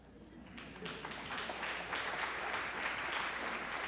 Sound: applause

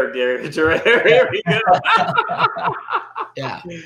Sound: both laughing

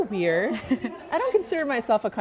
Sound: laughing

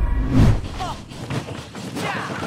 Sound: grunt

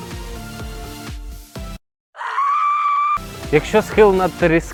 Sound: person screaming in horror

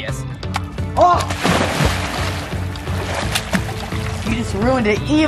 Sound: yells and water splashes

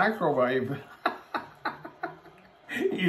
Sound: laughs

